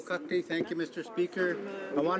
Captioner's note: speaking French